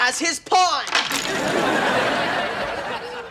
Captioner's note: audience laughing